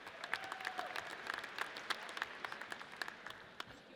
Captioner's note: audience applauds